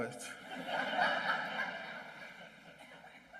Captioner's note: laughing